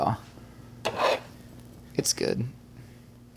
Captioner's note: spatula scraping